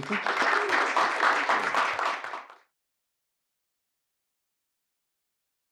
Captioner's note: and audience clapping